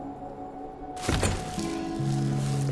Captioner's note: door squeaks open